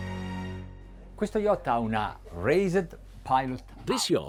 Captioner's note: speaking in foreign language